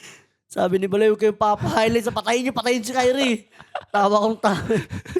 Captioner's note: laughs